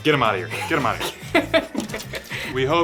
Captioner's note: laughing